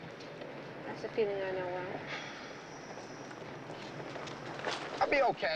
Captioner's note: sighs